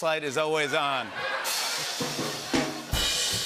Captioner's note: laughter